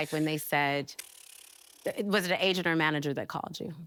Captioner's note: sputtering